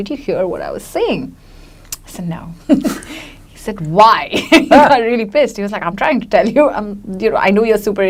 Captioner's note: giggles; laughs